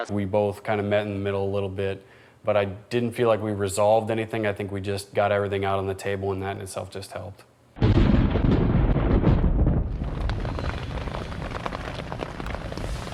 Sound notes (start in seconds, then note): 7.8 thunder rumbles